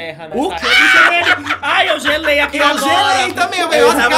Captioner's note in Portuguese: risos